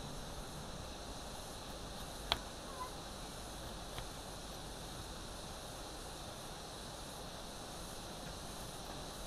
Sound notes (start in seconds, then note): 3.9 insects